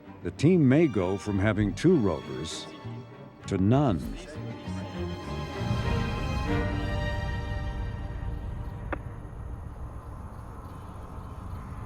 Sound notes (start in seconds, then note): 3.7 upbeat music; 8.5 wind whooshing